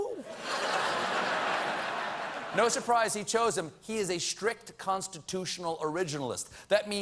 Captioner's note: laughter